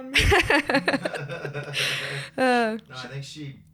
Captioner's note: laughs